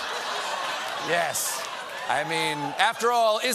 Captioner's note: laughter